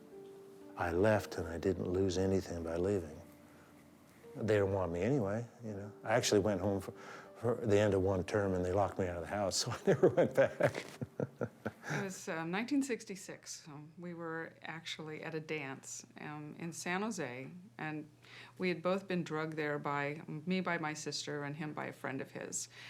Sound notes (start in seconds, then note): 9.8 chuckles